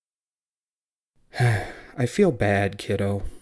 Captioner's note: sigh